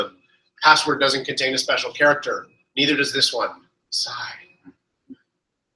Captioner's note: sigh